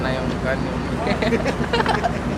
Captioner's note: laughing